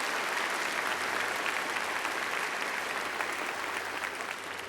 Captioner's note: applause